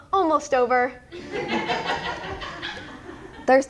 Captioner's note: audience laughs